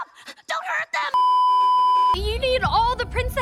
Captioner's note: beeeeeeeeeeeep